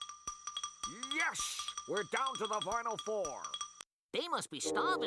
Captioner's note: imitating Marv Albert